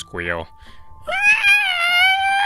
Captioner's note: pig squealing